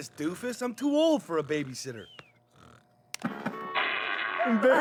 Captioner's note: fart